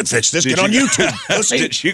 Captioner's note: laughs